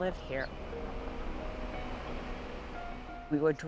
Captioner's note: engine rumbling